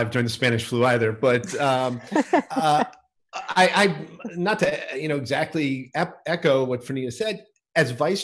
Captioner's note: laughter